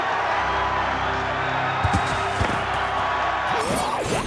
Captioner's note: crowd cheering